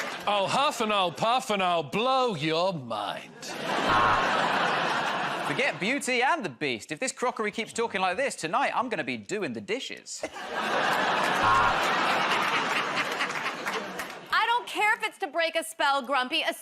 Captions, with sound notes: -I'll huff, and I'll puff, and I'll blow your mind. [ Buzzer buzzes ] -Forget Beauty and the Beast. If this crockery keeps talking like this, tonight I'm gonna be doing the dishes. [ Buzzer buzzes ] [ Laughter ] -I don't care if it's to break a spell, Grumpy.